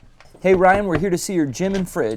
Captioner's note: knocking